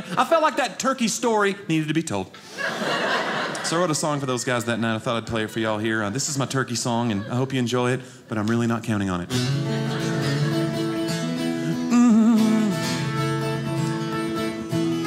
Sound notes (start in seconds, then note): 2.4 audience laughing; 9.1 guitar music playing